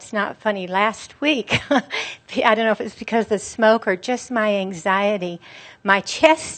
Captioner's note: she chuckles